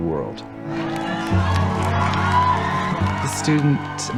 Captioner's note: applause and cheering